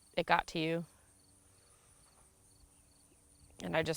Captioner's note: crickets chirping